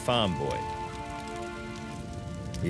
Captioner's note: wood crackling